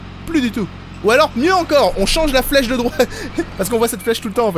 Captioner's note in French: Rire